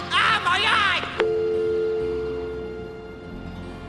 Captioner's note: hang up tone